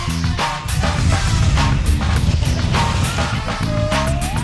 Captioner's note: whooshing